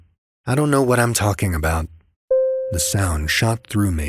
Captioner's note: ding